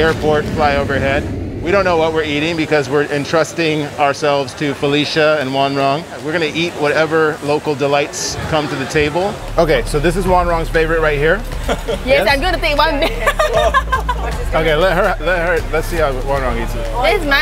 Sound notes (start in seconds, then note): 0.0 airplane roaring; 13.0 laughing; 14.3 people chattering